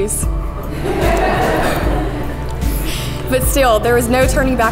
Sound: crowd laughs

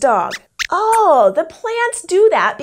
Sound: squeaks comments

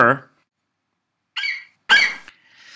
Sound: FlightCheck eagle screeches

